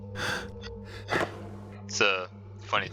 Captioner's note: loud tapping on wood